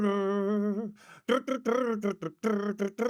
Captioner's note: humming